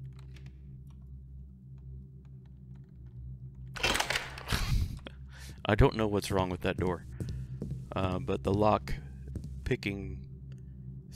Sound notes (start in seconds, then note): 4.6 laughs